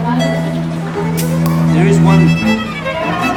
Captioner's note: bottle caps popping